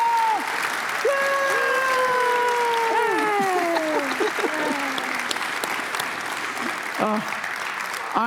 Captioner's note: applause